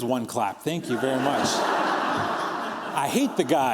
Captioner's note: laughter